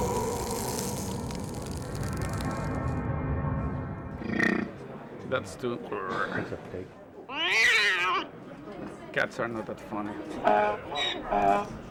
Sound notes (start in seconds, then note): 4.0 growl plays on recording; 7.3 cat yowls on recording; 10.5 donkey brays on recording